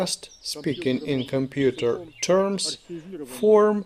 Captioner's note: speaking in computer terms